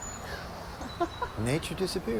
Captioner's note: Laura laughs